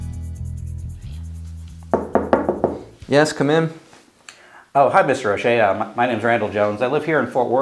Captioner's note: knocking